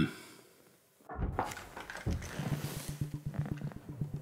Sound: banging

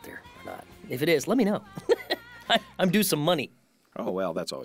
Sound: laughs

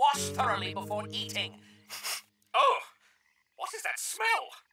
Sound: sniffing

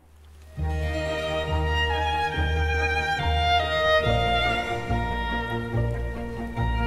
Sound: fire crackles; elegant Baroque music

